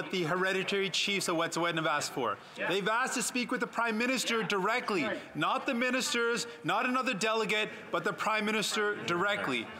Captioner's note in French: voix de l'interprète